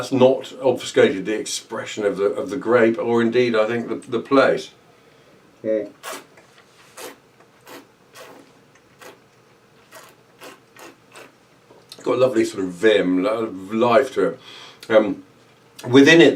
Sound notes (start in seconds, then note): 6.3 slurping